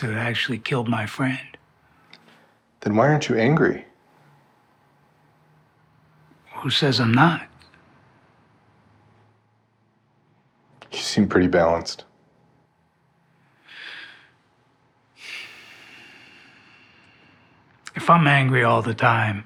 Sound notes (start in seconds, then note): 13.2 Hardy sighs